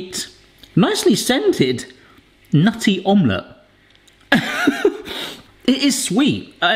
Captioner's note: laughs